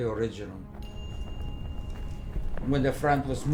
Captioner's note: distant combat